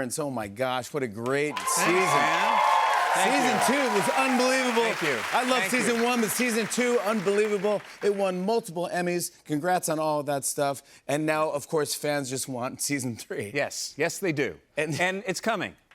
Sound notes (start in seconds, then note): 2.5 cheers and applause